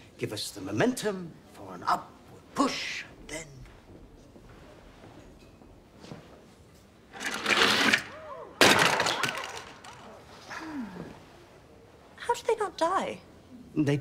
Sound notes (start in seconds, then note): 7.1 cart rattling; 7.2 crowd gasping